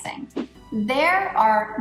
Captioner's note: air whooshing